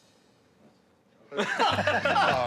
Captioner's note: laughter